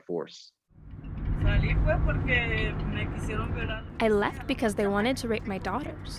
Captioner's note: audio of mother speaking in Spanish